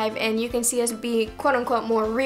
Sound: none

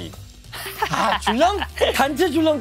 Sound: laughing

